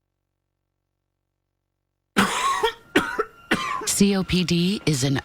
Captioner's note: coughing